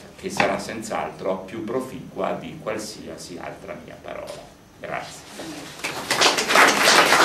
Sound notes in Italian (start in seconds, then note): 4.0 applausi